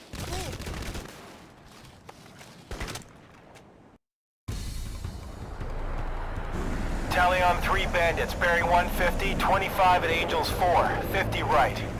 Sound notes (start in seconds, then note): 0.0 gunfire